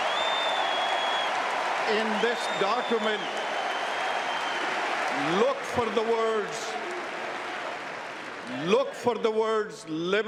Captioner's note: cheers and applause